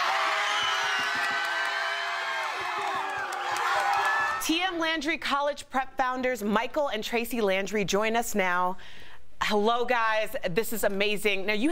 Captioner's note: cheering